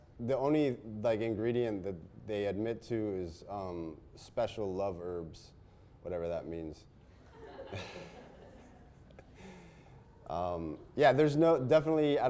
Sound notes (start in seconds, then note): 7.3 audience laughs